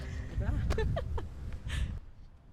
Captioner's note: laughs